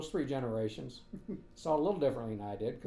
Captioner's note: chuckling